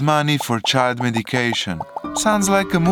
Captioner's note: bubble pop sounds; romantic music